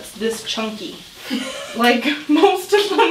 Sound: laughs

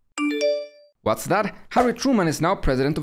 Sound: door bell

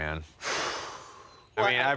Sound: sigh

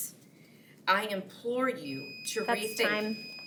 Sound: timer beeps

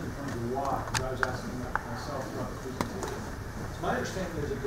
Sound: speaks faintly

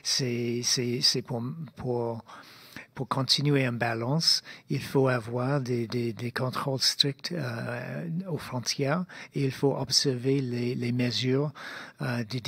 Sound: speaking in French

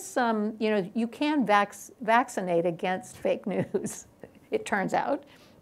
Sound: laughs

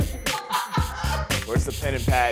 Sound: laughs

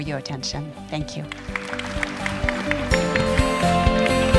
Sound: audience applauds; upbeat music

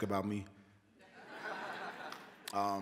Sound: laughter

